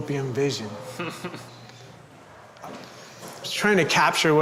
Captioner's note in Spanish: Hombre en camisa a rayas se ríe